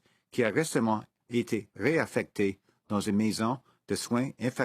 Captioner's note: speaking FRENCH